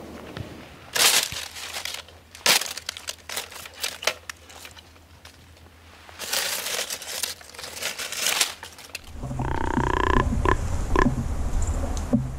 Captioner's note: raking branches, rattling antlers